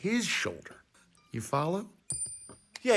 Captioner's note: coin clinks